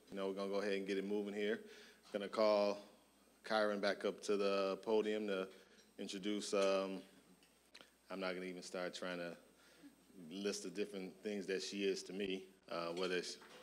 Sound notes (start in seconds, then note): none